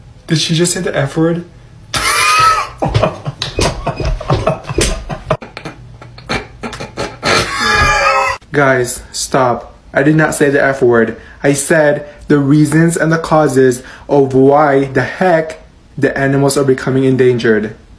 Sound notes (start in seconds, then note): 1.9 bro starts laughing; 6.0 bro starts laughing as well